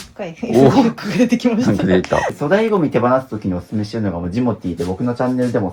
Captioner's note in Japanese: 笑い